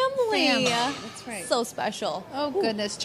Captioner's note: crashing